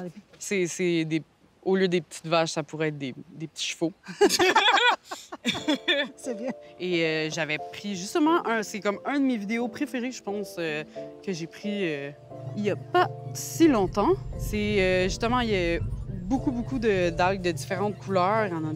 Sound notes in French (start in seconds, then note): 4.0 rires